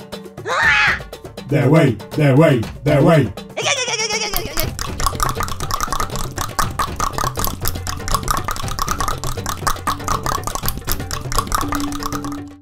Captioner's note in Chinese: 大量彈舌